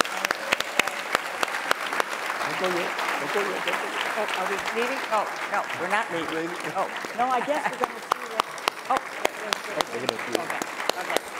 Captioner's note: applause